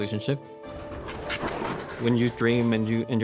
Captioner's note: roce del trineo sobre el hielo